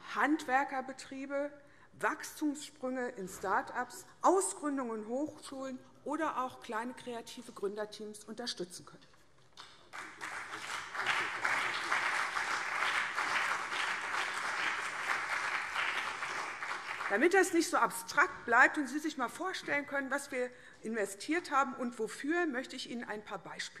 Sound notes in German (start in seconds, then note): 9.8 Beifall CDU und BÜNDNIS 90/DIE GRÜNEN